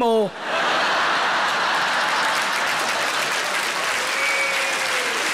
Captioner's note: audience laughing and applauding